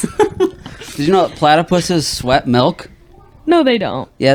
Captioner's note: laughter